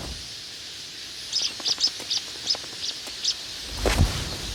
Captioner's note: chirping frantically